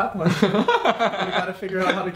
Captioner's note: laughs